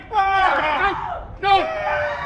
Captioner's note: person screaming